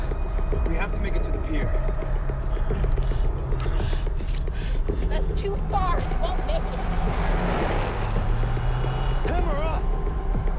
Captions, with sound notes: We have to make it to the pier. (heavy breathing) - That's too far, he won't make it. (engine rumbling) - Him or us?